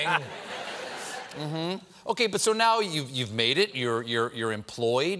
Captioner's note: laughter